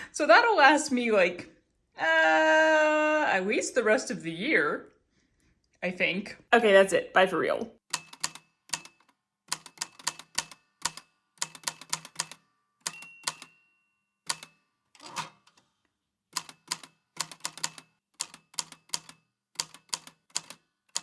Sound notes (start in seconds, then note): 7.8 the typewriter clicks and clacks away, with dings here and there